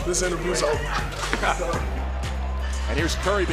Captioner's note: laughing